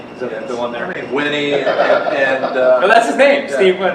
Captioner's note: cameraman laughs